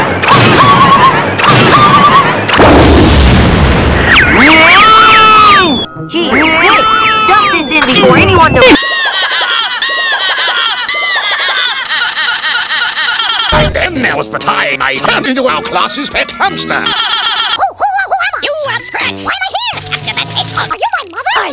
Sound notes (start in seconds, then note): 8.8 laughter; 8.8 more laughter; 10.8 even more laughter